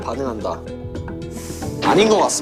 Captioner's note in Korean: 스읍